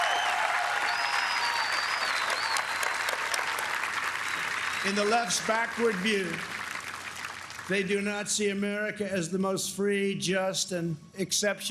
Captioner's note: applause